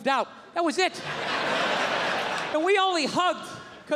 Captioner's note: crowd laughs